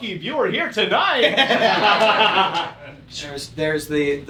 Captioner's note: laughter